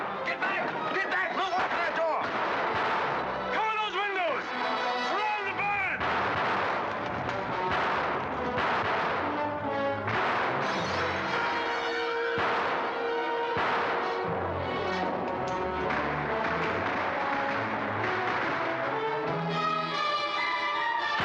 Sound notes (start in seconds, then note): 0.0 dramatic music; 0.0 gunfire; 1.4 gunfire; 2.3 dramatic music; 5.9 gunfire; 6.0 dramatic music; 10.5 glass breaking; 11.9 dramatic music; 11.9 gunfire; 15.2 gun clicks; 15.7 gunfire; 16.4 dramatic music